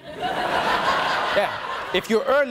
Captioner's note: audience laughing